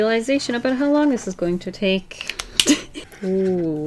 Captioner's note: laughs